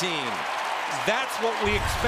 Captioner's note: cheering